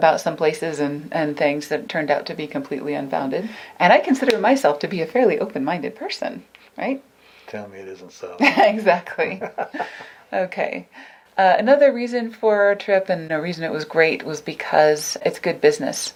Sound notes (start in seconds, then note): 8.4 laughs